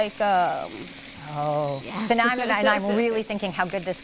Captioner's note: laughs